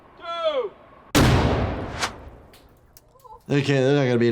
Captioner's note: explosion banging